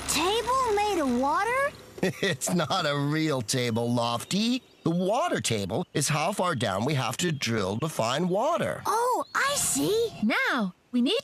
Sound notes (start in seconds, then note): 2.0 chuckling